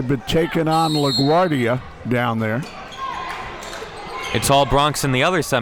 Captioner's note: whistle blows